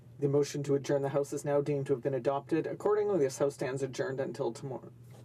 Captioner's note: speaking french